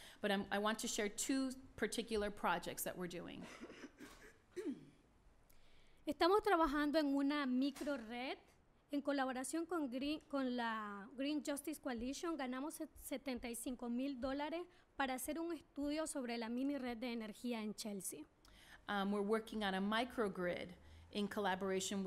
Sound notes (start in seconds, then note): 6.1 speaking spanish